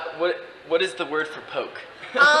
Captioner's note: laughs